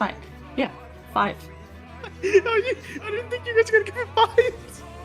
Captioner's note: mumbling through laughter